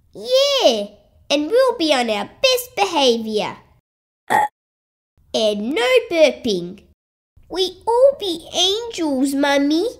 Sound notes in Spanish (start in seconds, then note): 4.2 Eructo